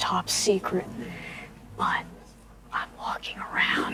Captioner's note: whispering